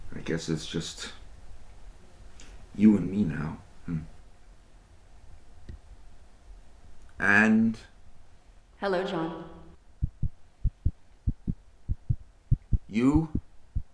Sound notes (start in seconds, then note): 10.0 heart beats